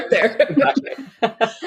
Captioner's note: laughing